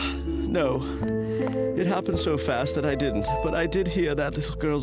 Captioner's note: sighs